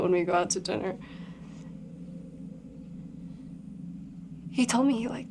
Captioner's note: tense music; crickets chirping